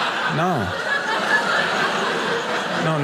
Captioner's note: audience laughing